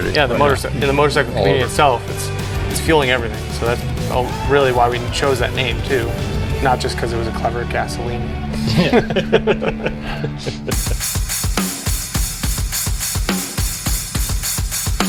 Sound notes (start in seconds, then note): 8.5 laughing; 10.3 rock music